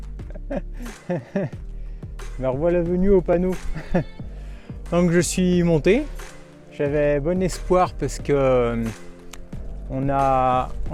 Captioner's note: laughs